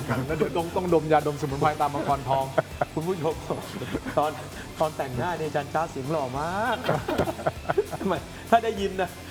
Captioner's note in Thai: เสียงหัวเราะ; เสียงหัวเราะ